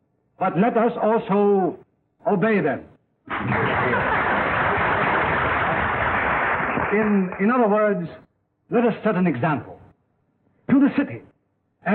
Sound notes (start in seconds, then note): 3.3 applause